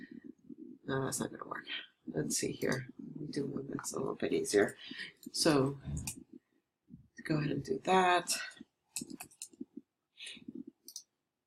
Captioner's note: mumbling to herself